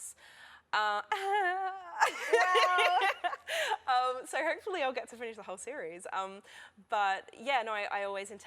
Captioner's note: laughter